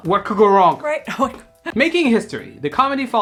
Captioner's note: Sandrine laughs